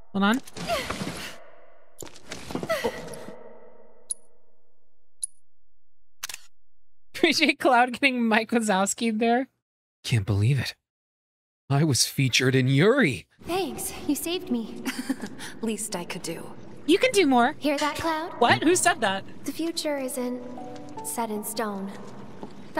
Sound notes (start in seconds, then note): 6.2 camera Click